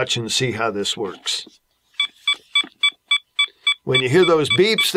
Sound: beeping

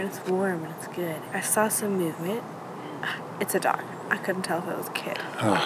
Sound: gasps

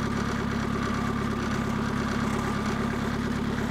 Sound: engine

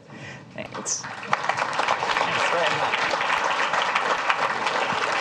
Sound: clapping

